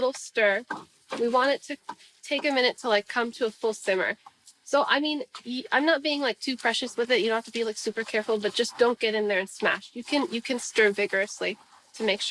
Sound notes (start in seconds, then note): none